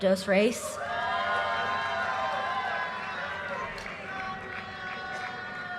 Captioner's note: audience cheers and applause